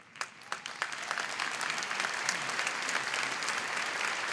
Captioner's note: applause